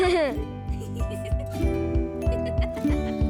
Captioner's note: laughs